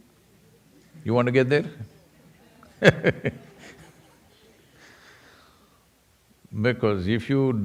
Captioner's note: laughs